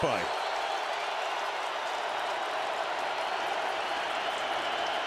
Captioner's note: cheering